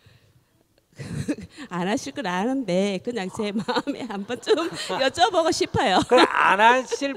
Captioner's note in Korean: 질문자 웃음